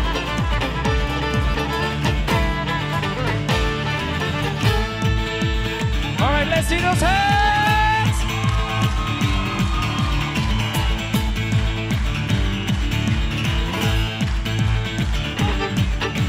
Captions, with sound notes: Alright, let's see those hands! (cheering) (rhythmic clapping)